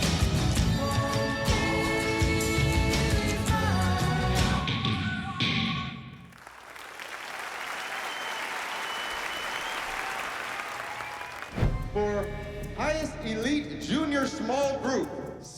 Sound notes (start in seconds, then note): 6.2 applause